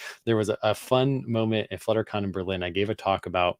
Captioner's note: none